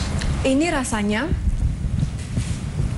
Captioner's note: non-english speech